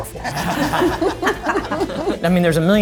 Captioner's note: group laughing